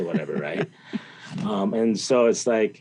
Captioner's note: interviewer laughs